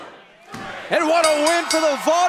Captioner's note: bell ringing